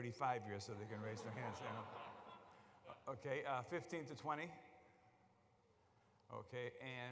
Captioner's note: laughter